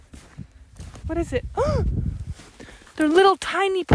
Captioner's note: gasps